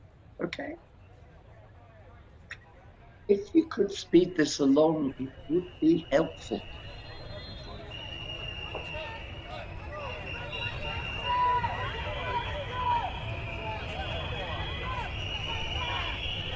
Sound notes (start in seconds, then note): 9.1 rising sounds of a street riot